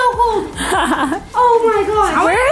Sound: laughing

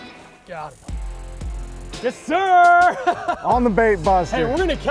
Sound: laughs

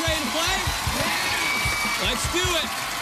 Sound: cheers and applause

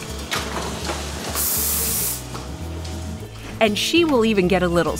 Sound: machine hissing

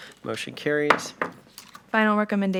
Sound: gavel knocks

